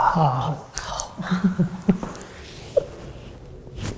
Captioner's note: chuckles